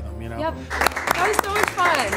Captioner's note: people clapping